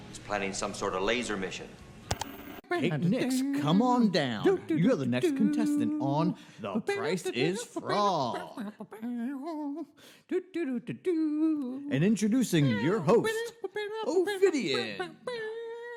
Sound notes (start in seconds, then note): 2.1 static; 2.2 ka-chunk; 8.6 scatting a theme song that feels familiar but doesn't violate copyright